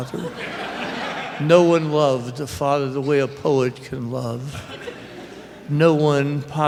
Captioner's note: laughter; laughter